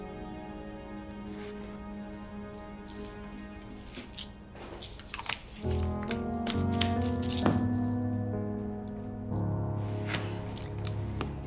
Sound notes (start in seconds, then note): 4.6 pills rustle; 7.9 somber music